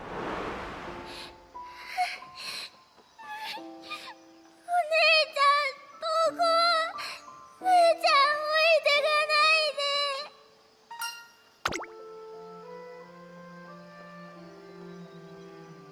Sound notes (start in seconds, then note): 0.8 huff; 1.6 sigh